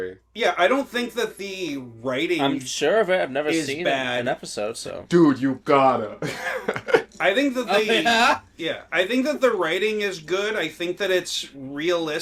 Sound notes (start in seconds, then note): 6.2 laughter